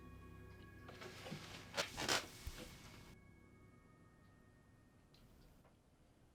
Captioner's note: The music quiets down as Franks chair creaks